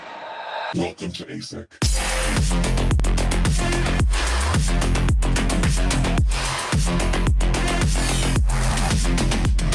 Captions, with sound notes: - [Distorted Voice] Welcome to ASEC. (upbeat dubstep music)